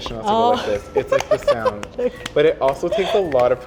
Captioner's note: hands clapping together